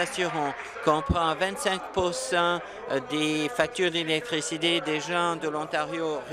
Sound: applause

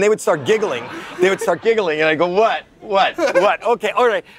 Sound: echoes

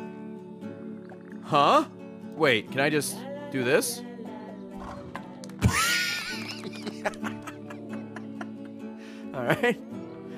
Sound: laughs

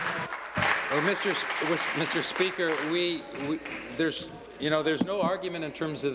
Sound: applause

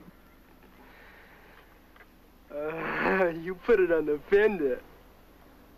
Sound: giggling

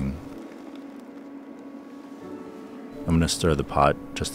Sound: boba rattling

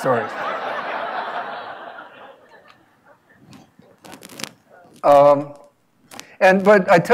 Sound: laugh

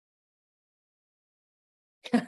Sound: laughter

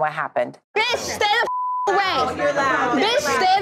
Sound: beep

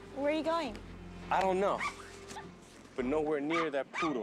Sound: dog yipping

